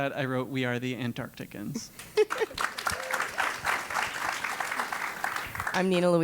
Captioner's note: applause